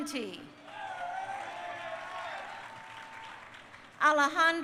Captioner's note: crowd cheering